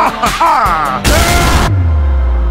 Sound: explosion, painful scream

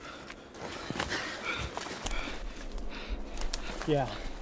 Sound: louder rumble sounds

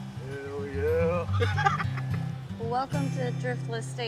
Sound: group laughing

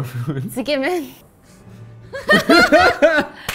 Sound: laughing

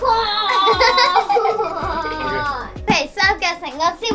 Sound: giggles

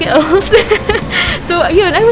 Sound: giggles

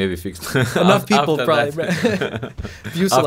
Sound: both laughing

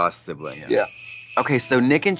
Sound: sleigh bells jingling

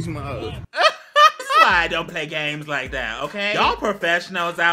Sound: laughs

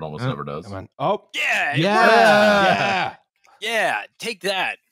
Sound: shouts of joy and celebration

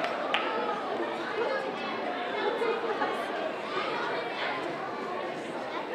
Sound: audience exclaiming and chattering

